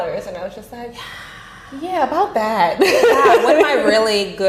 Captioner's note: laughing